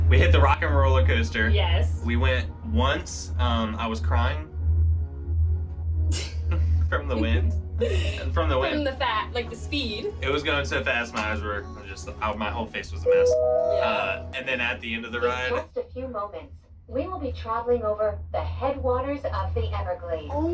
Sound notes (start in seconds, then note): 13.0 Skyliner chimes